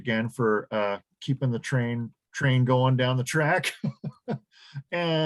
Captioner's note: laughs